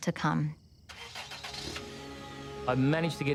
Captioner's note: car engine revving